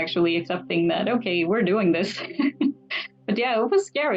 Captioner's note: laughs